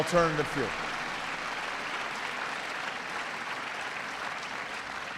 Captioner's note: audience applauds